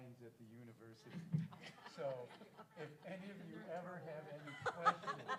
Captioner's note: laugh